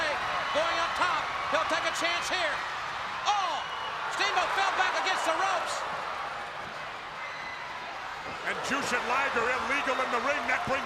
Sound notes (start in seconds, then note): 6.3 crowd chatter